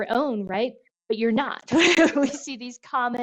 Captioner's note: laughs